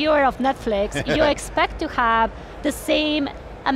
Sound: chuckles

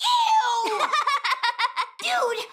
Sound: laughing

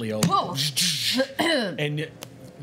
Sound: clears throat

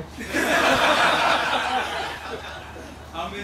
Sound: laughter

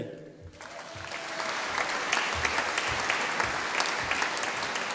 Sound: audience applauding

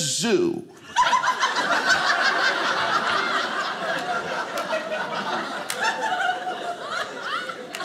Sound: audience laughing

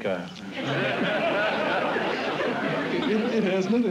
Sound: laughter

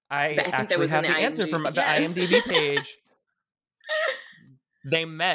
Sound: laughing

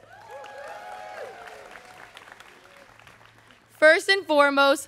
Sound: students cheering

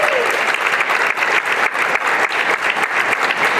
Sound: applause

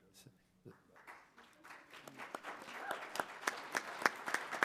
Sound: applause

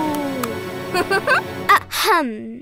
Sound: giggling

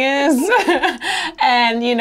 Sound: laughs

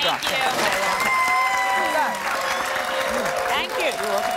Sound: audience applauding

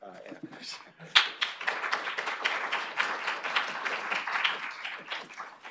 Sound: applause

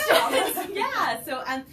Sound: laughter

